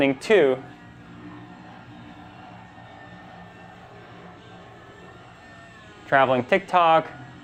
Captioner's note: helicopter propellers whirring